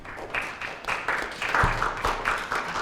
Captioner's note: applause